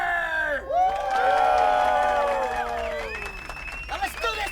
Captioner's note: crowd cheers